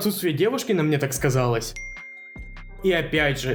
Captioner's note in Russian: дзынь